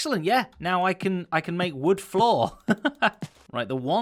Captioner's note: chuckles